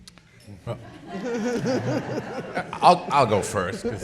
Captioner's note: people laughing